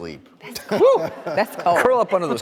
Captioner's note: audience laughs